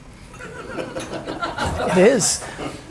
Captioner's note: audience laughing